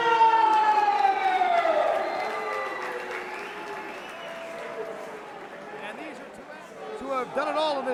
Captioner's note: crowd cheering